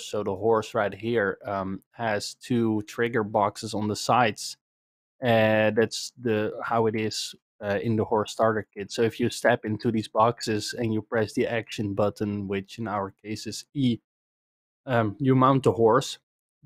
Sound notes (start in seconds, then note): none